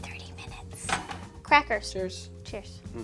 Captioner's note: tray clanking